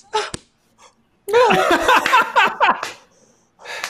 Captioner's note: laughing